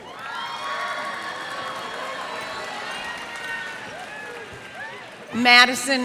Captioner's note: cheers and applause